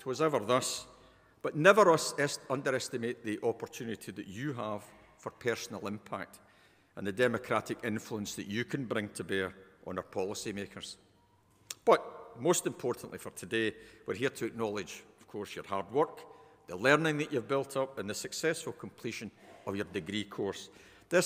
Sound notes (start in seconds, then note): none